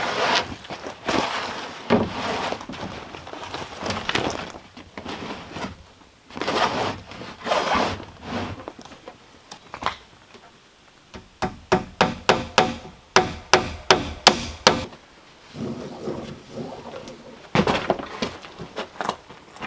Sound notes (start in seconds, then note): 13.1 hammering